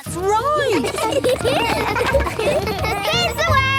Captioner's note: laughter